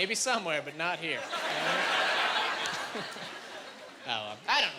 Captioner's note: laughing